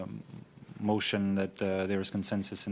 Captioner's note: speaking French